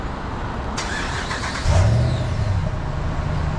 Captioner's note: truck engine starts